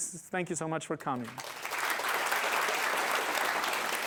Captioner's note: applause